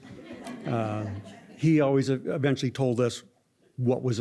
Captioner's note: laughter